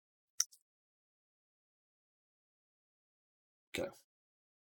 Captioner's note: mouse clicking